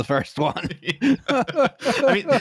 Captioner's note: laughter